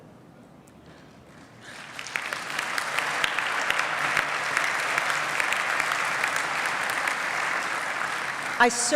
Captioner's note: applause